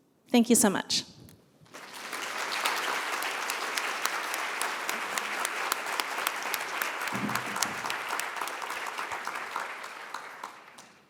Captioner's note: applause